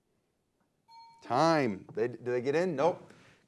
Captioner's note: bell dings